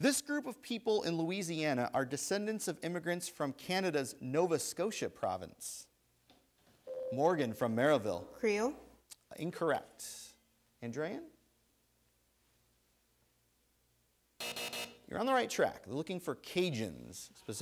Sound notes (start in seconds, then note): 6.8 ding; 14.4 buzzer